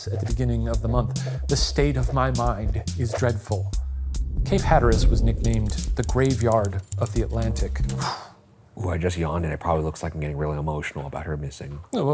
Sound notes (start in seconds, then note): 4.1 screen whooshing; 5.4 typewriter clicking; 7.7 exhaling sharply